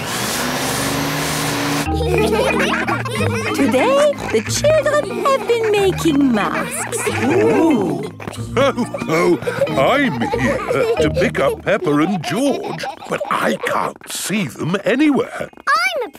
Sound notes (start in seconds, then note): 0.0 whirring; 2.5 all laughing; 8.8 laughs